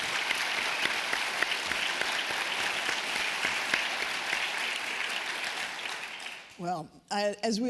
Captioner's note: applause